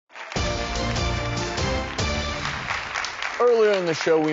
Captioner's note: audience clapping; upbeat music